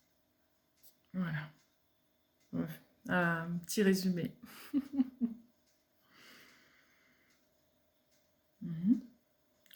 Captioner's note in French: rires